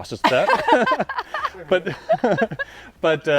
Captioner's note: laughing